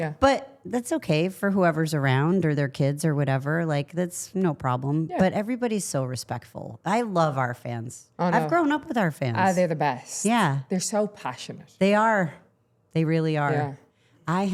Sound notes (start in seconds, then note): none